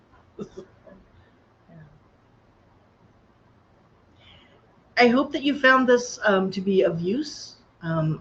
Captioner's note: laughter